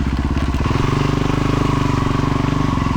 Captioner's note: engine roaring